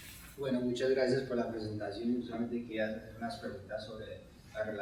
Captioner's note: speaking in Spanish